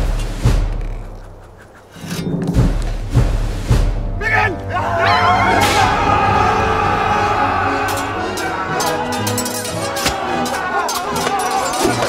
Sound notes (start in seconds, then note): 4.2 all yelling; 10.1 confused screaming